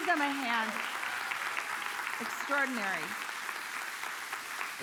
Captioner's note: congregation applauding